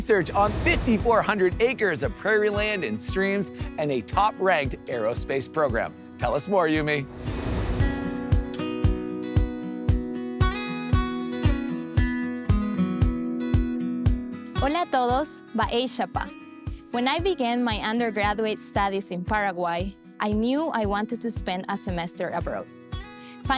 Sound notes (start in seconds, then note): 7.3 light upbeat music; 14.6 speaking Spanish